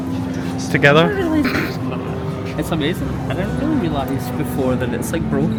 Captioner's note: laughs